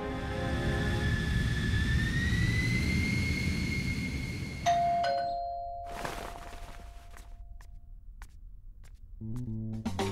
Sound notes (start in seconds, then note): 4.6 door bell ringing